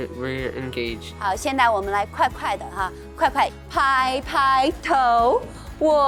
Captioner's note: speaking in Mandarin